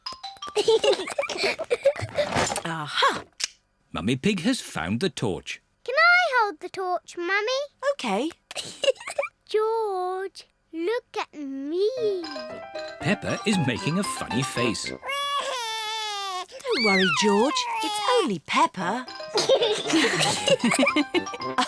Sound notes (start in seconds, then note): 0.5 peppa and george giggling; 8.8 giggles; 15.0 cries; 19.4 all laugh